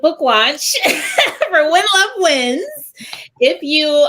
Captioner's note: laughter